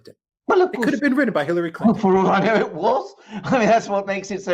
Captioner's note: interjecting, laughing